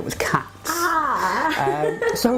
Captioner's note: laughter